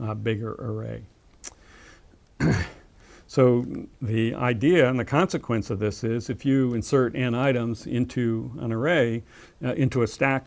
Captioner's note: cough